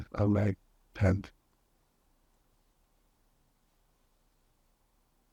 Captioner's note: pauses 23 seconds